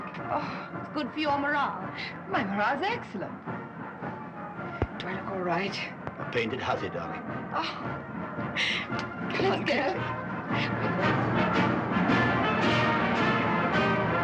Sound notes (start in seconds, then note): 7.7 chuckles; 10.3 marching band playing